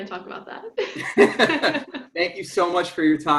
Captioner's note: both laughs